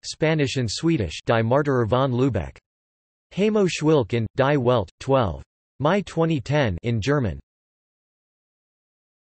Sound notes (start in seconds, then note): 6.0 in German